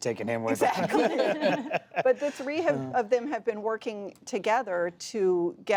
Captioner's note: laughter